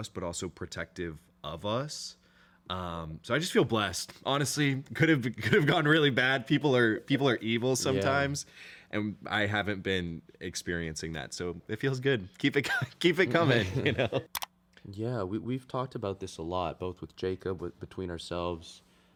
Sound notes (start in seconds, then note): 13.3 laughs